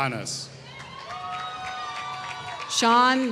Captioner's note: applause